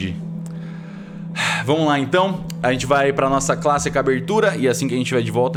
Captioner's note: sigh